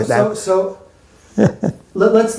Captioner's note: chuckles